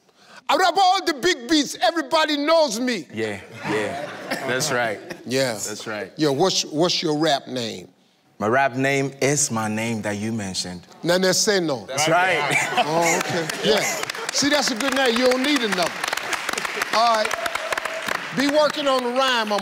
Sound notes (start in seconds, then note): 0.5 imitating African rapper